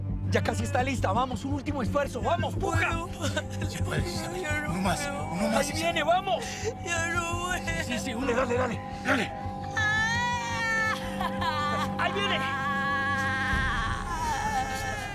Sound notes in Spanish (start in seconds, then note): 9.6 Grito